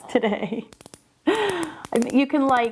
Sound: pen clicking

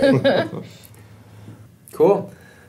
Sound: laughs

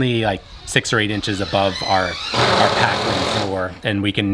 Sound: machine whirring

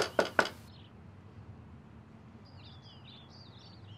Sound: knocking

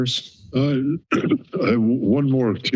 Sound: clears throat

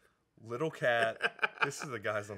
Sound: Dan laughing

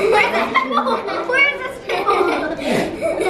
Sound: giggling

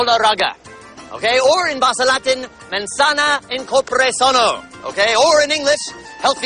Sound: non-english speech

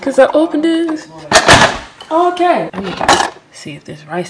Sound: thuds

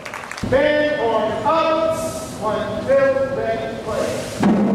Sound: band hisses

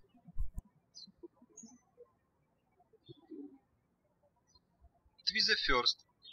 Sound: birds chirping

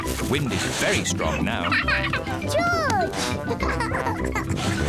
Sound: giggles; giggles

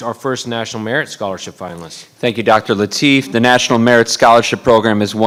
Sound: none

